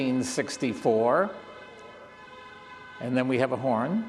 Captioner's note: horns beeping; horns beeping